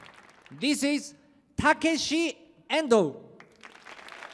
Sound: applause

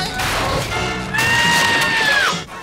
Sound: screaming

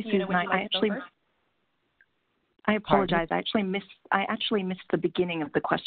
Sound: several people talking together

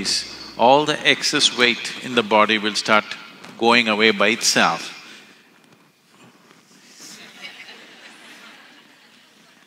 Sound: laughter

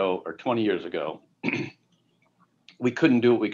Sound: clears throat

